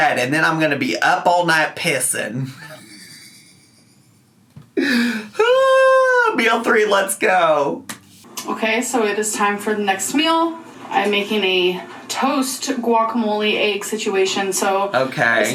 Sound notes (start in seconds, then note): 2.8 wheezing; 4.7 dramatically sighing